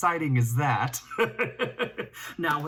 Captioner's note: laughs